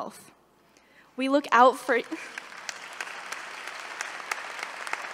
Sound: applause

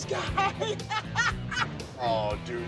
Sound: laughing

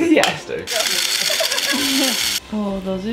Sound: motor churning; laughter

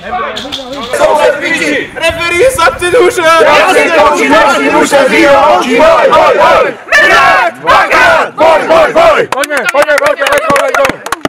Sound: chant

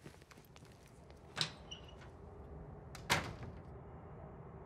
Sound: door opens, closes

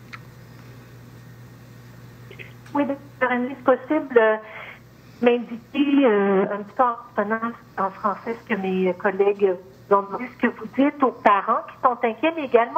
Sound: speaking French

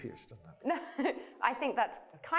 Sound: laughs

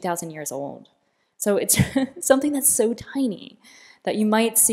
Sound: laughter

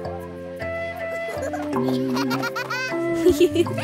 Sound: giggling

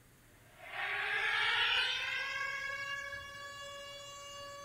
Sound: siren blaring

